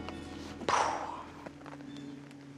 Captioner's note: sighs